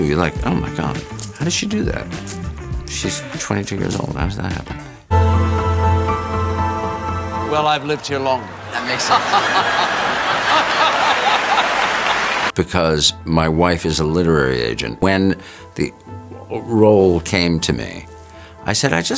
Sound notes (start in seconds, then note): 5.1 gentle music; 7.7 laughs; 9.9 audience laughs